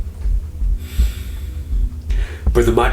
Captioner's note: exhales